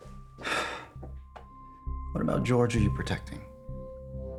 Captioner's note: sighs